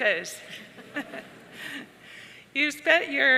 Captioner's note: audience and participants laughing